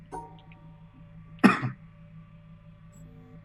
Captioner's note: coughs